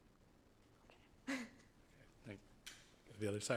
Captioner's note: chuckling